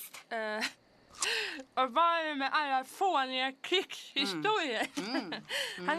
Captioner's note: mouth full